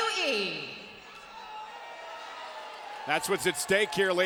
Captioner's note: spectators cheering